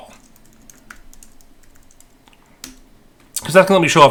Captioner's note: keyboard clicking